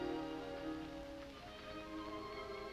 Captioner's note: none